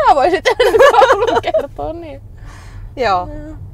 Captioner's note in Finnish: Hulvatonta naurua